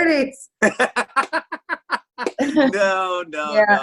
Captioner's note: laughs